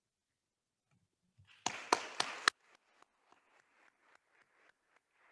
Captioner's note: attendees applauding